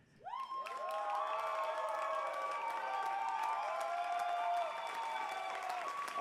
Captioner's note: cheers and applause